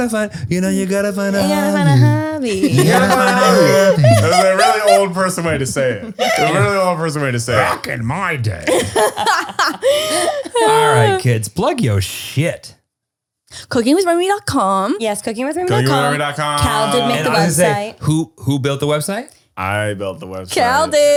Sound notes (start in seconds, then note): 4.4 laughing